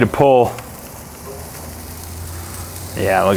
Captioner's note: filets searing